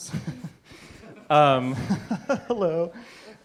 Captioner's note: laughter